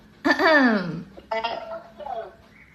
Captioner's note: fake cough